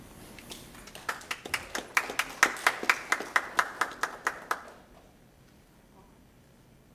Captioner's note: applause